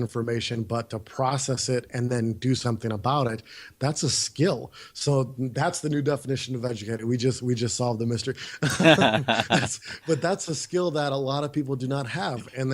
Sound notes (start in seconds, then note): 8.6 both laughs